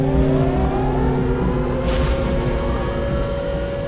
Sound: siren wailing

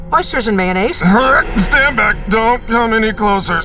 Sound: groans

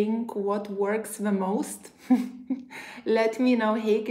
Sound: chuckles

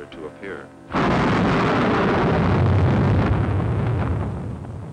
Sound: eerie booming

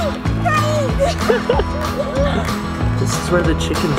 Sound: laughter

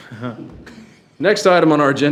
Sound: laughing

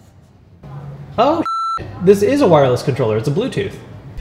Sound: beep

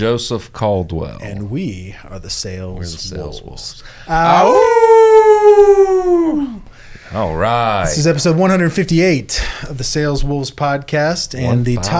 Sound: howl

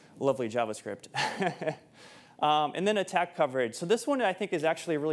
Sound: chuckles

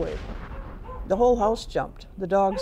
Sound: explosion and dogs barking

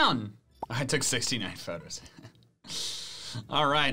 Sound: laughs

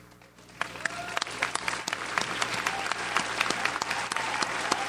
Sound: audience applauds

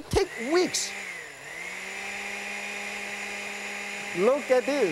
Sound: blender whirring

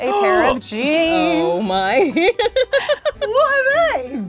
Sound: giggling

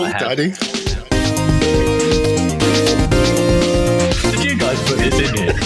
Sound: laughing

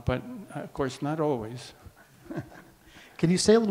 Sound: chuckles

